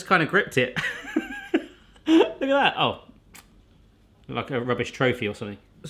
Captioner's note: laughing